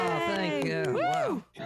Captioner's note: all cheering